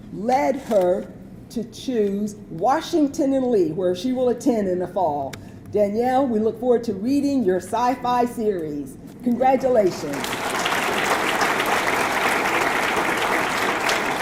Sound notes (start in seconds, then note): 9.9 audience clapping